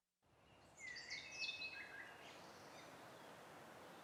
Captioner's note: birds singing